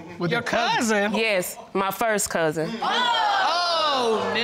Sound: audience exclaiming

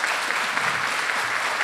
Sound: applause

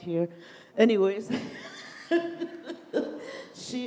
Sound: laughs

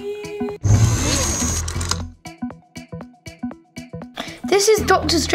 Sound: electric charging noise

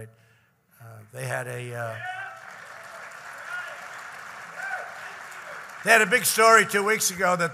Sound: applause

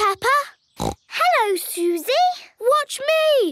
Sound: snorts

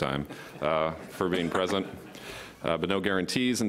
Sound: laughter

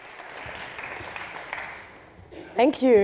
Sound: applause

